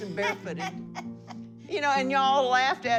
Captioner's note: laughing